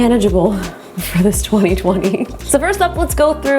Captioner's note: laughing